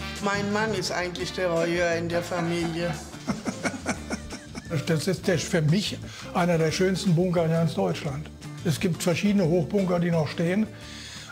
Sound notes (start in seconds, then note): 2.9 he chuckles